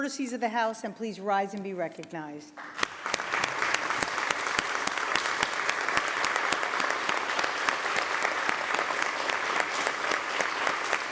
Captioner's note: applause